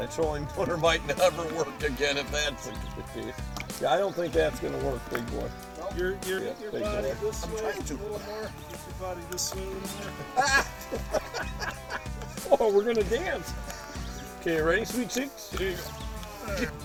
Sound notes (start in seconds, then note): 10.5 yelling; 11.3 laughing